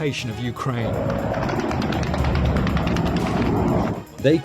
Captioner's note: plane engines roaring; weapons firing